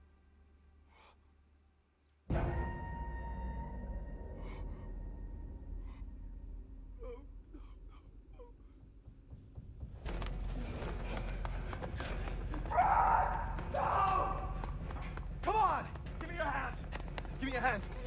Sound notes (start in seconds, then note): 0.9 eerie music; 0.9 man gasps